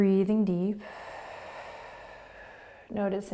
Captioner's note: exhaling